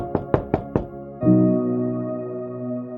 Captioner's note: door thudding; gentle music